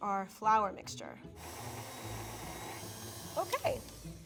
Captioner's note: mixer whirring